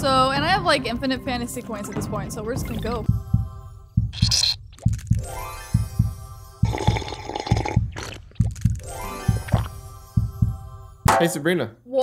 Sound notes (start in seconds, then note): 3.5 heart beats; 4.5 sweat squelches; 5.2 bright music; 6.7 straw whirs